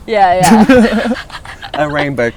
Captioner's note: laughing